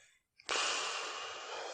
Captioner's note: sigh